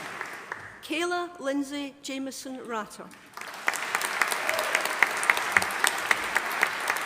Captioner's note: audience applauding